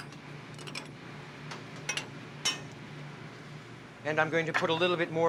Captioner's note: clang